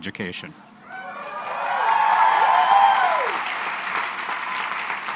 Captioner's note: cheering and applause